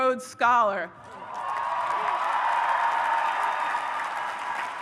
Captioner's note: audience cheers